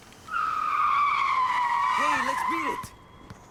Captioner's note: tires screeching